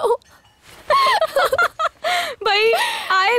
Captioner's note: Laughs